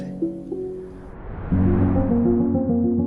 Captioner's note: screen whooshing; somber music